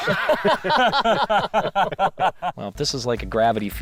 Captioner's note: laughing